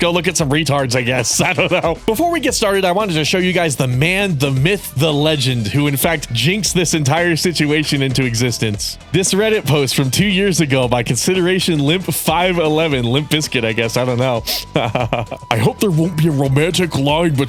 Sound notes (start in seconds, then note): 15.5 laughing